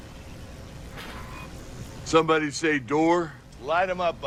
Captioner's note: wind blowing